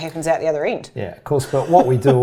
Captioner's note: chuckles